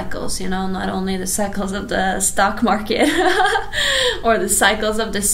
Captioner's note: laughs